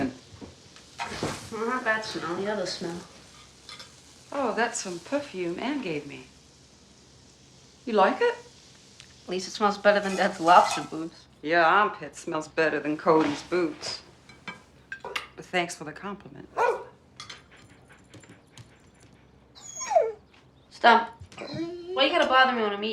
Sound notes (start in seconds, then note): 16.5 barking; 19.5 whimpering